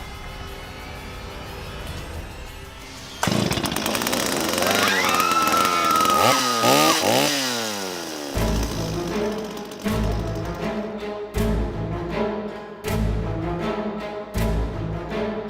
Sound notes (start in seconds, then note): 2.9 chainsaw starts; 4.6 all screaming